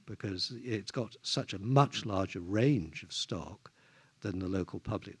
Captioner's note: none